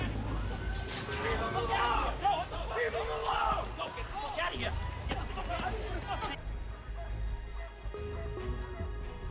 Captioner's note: shouts